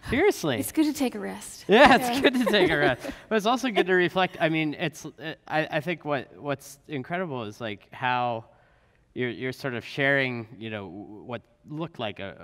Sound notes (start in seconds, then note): 1.7 laughs